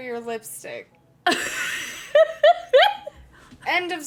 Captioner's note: laughing